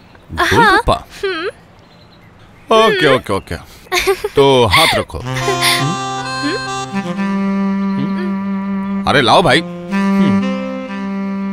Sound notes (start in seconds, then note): 5.2 laughs